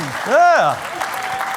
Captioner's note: applause